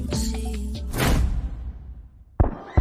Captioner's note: door slamming; people screaming; gunshots firing